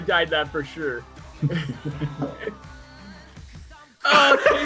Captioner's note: all laugh